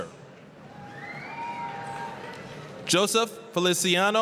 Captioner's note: applause, cheering